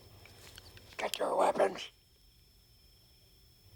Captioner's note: whispers